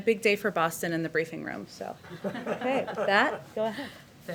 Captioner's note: laughter